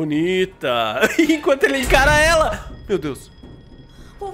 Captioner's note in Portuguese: risos